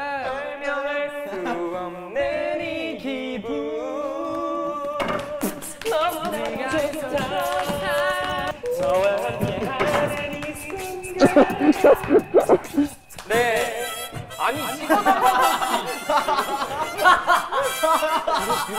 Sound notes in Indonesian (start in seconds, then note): 14.7 Hahahahahaha